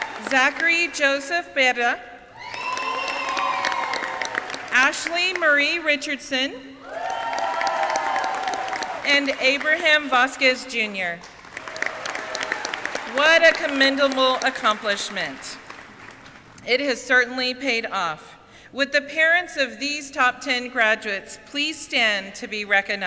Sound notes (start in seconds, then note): 2.3 audience cheering; 11.2 audience clapping